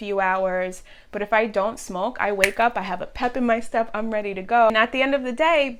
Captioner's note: snaps